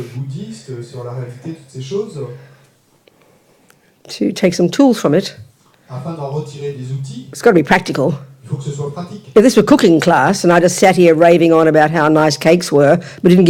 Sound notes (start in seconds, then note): 5.0 French; 9.0 French